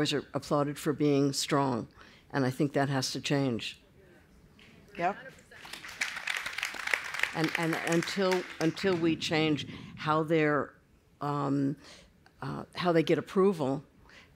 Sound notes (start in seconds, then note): 5.5 applause